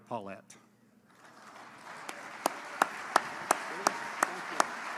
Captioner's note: applause